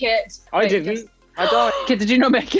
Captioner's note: Amita gasps